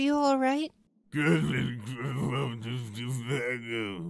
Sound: PICCOLO's gibberish

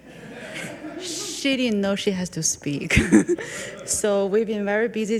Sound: people chuckle; chuckles

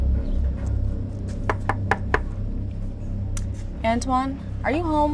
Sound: knuckles rapping

